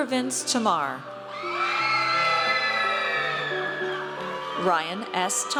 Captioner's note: audience cheers